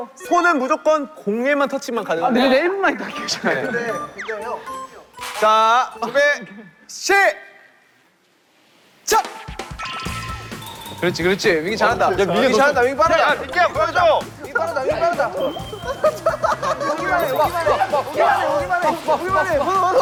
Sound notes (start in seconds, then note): 4.0 audience satisfied